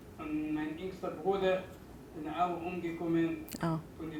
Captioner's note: non-english speech